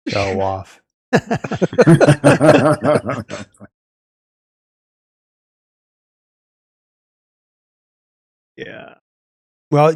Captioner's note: laughing